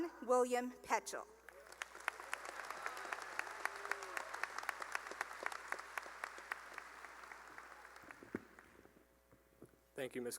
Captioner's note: cheering and applause